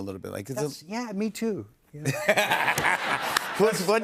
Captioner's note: laughter